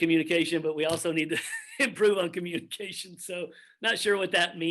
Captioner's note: chuckles